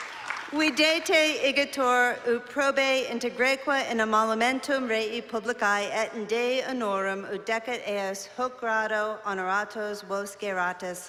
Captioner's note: non-english speech